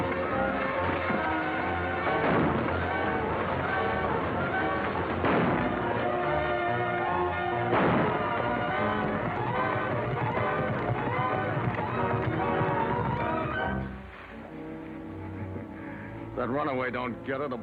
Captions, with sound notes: (weapon fires) (wagon wheels crunching) (weapon firing) (horses galloping) (dramatic music) - (laughs) If that runaway don't get her,